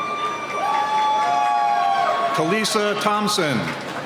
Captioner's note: cheering